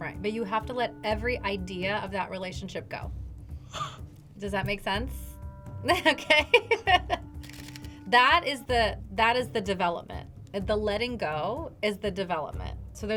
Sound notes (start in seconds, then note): 3.7 laughs